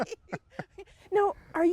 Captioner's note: both laughing